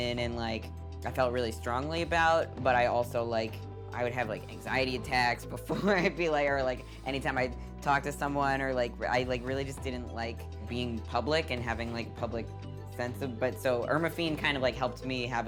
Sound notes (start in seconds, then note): 5.7 laughing